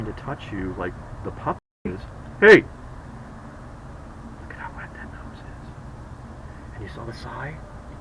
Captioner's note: whispering